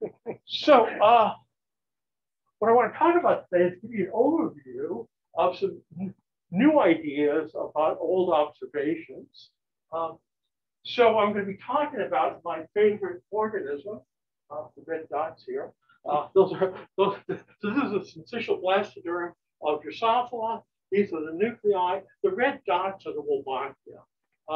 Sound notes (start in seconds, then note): 16.5 chuckles